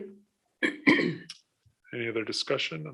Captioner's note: clears throat